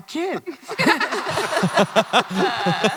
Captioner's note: laughter